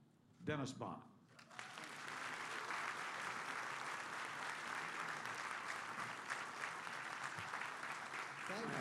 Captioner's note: applause